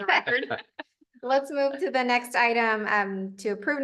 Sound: laughter

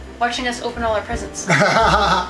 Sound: laughs

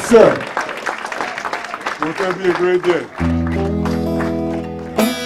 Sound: applause; guitar strumming

